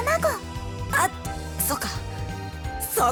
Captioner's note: whisper